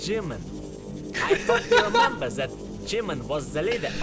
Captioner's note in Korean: 웃음